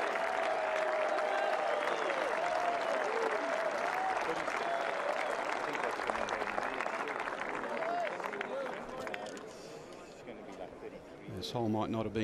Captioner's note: cheers and applause